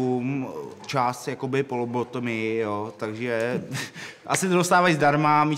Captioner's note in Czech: smích